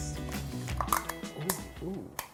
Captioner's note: plastic lid cracks open